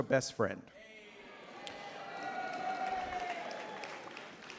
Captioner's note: cheering, applause